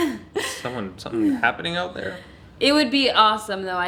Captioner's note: laughing